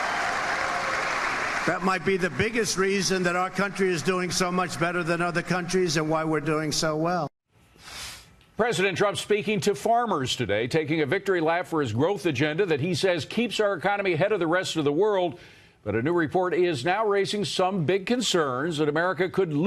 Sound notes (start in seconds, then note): 4.1 applause